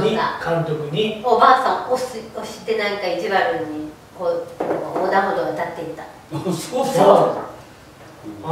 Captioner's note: laughs